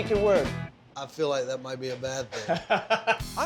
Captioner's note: laughs